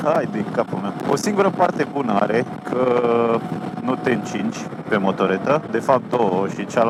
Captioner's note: the wind